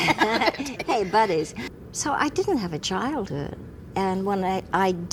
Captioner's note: laughs